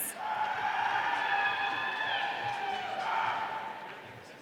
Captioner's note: audience cheering